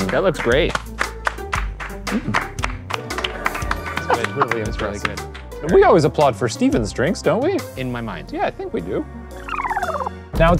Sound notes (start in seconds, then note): 0.0 both clapping